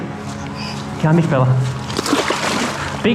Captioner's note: splash